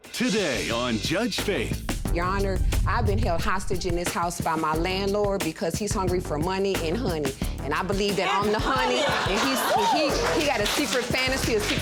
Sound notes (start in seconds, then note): 6.6 audience laughs